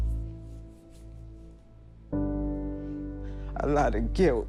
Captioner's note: none